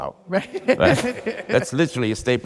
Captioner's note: laughs